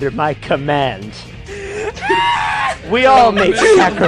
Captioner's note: screams